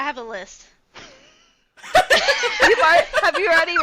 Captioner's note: laughter